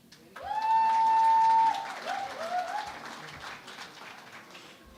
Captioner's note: cheering and Applause